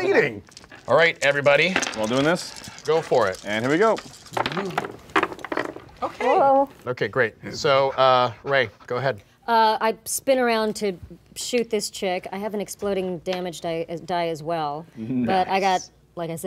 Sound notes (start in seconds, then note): 4.6 dice rolling